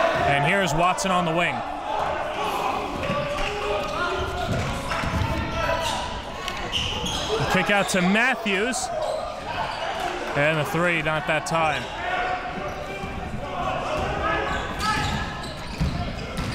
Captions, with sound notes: And here is Watson on the wing. (crowd cheering) Kick out to Matthews. And a 3, not that time. (crowd cheering)